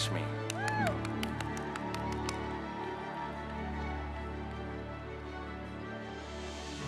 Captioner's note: triumphant music; audience cheering